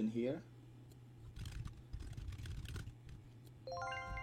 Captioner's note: typing